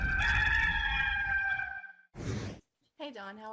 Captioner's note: rooster crowing